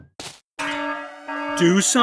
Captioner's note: alarm blares